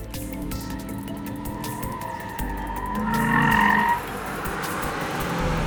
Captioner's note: sound of Tires Squealing